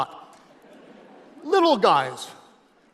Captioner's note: audience laughing